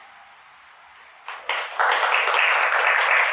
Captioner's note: applause